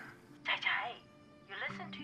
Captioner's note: speaking foreign language